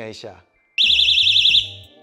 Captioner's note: alarm ringing